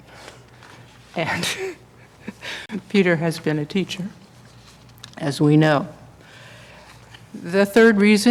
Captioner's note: laughs